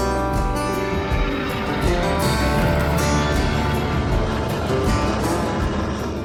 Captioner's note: airplane engine roaring